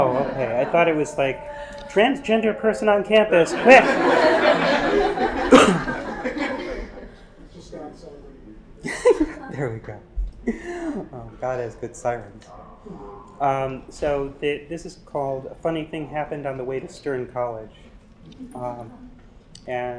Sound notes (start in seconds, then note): 3.4 laugh; 5.4 cough